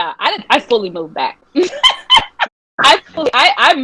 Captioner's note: laughing